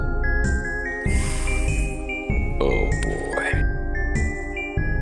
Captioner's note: deep breath